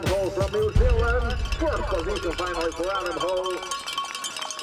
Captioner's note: announcer speaking in Spanish; bells ringing; announcer speaking